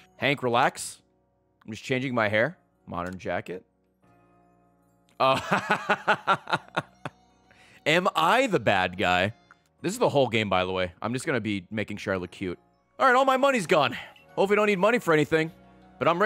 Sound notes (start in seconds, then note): 6.9 laughs